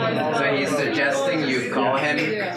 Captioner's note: laughing; male Voice